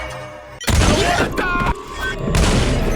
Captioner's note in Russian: банг